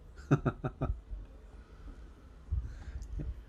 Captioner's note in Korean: 웃음